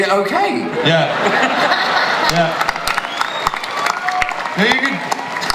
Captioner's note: laughter and applause